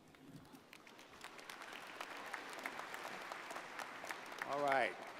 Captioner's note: audience applauds